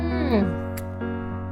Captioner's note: chef's kiss sound